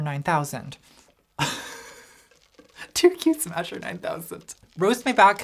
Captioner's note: laughs